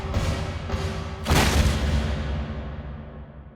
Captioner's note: slam